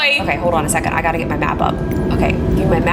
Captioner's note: engine whirs